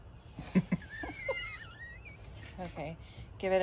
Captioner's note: chuckle/wheeze